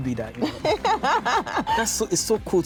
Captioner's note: laughing